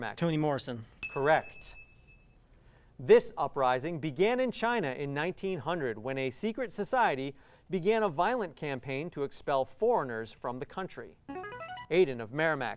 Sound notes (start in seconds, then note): 1.0 ding; 11.0 ringing